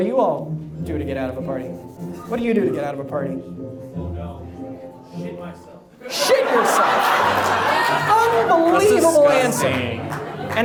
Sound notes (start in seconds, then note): 6.0 audience laughs